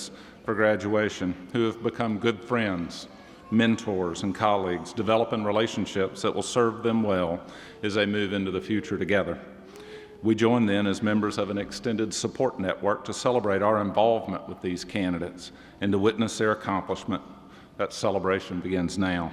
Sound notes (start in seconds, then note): none